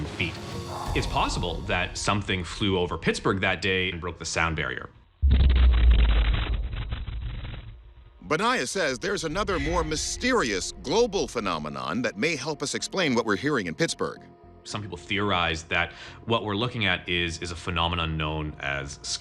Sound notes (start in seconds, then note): 5.2 loud explosion